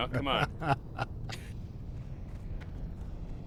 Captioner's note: laughs